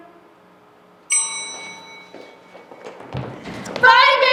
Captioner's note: bell rings